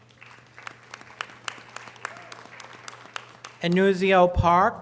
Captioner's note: audience applause